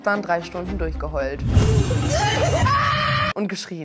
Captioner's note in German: Weinen und Schreie